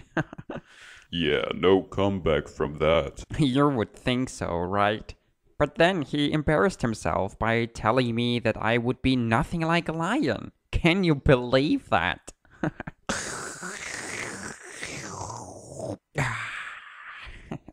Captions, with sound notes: *Chuckles* ???: Yeah, no come back from that. You would think so, right? But then he embarrassed himself by telling me that I would be nothing like a lion! Can you believe that? Hehe. *Slurps* Ahhh! *Chuckles*